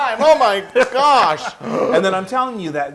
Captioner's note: laugh